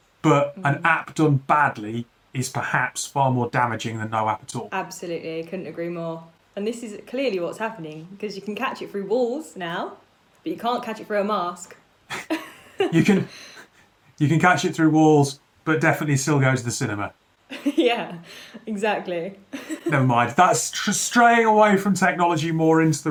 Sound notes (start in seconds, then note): 12.1 laughs; 19.6 laughs